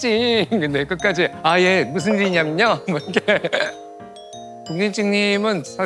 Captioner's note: Polite red glasses ching